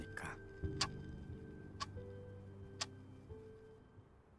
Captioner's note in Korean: 시계 째깍이는 소리